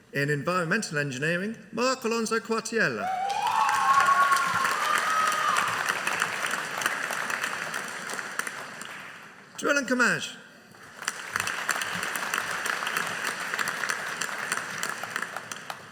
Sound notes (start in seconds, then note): 3.0 audience cheering; 10.8 audience applauding